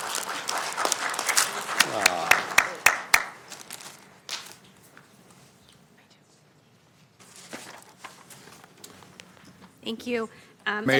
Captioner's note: applause